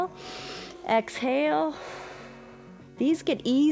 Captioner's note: inhales; exhales